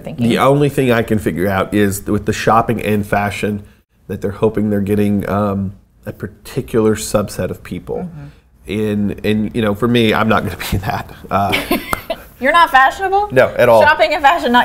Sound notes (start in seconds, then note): 11.4 laughs